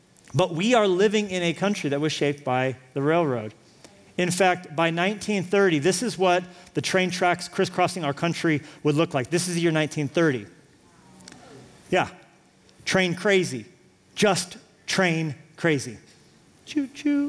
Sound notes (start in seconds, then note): 10.2 audience reacts